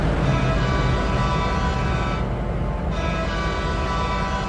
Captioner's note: horn blasts